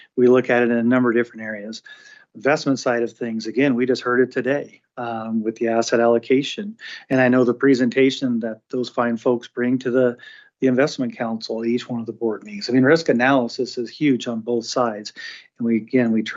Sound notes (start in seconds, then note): none